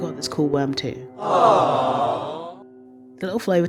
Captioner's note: awwwe sound